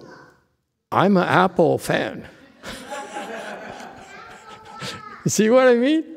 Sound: laughs, audience laughs

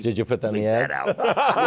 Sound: laughter

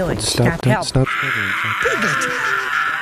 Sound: piglet Screaming

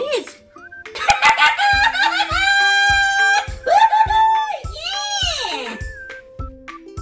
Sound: giggling

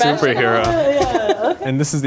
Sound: hands punching

